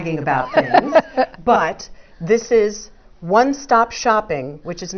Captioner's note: laugh